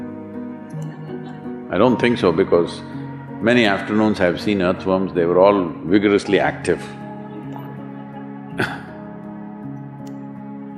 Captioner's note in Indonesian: Sedikit tertawa